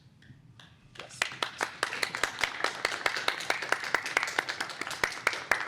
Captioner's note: applause